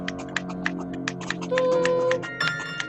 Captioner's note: gollum whimpers